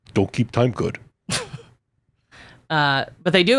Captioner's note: laughs